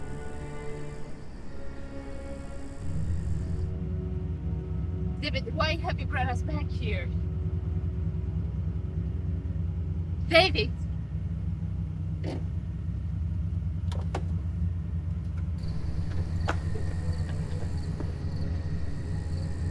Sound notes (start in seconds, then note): 13.5 car door clicking; 15.6 footsteps thudding